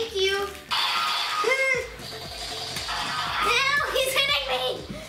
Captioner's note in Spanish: disparos de láser